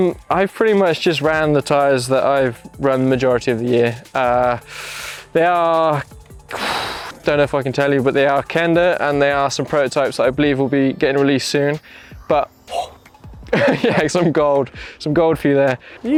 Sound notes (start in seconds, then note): 12.5 exhales deeply; 13.5 laughs